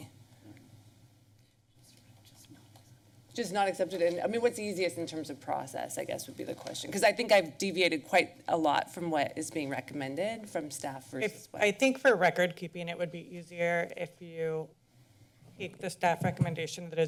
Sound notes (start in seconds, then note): 2.1 whispers